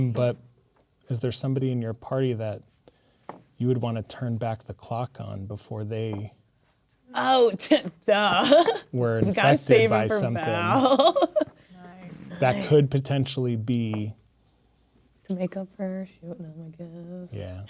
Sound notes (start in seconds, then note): 9.2 scoffs; 9.3 laughing